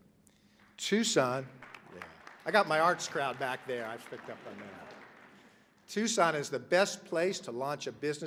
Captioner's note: applause